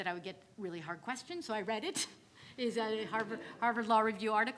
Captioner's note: laughs; audience laughing